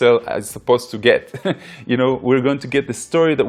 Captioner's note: laughs